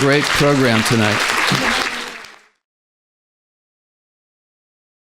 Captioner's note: applauding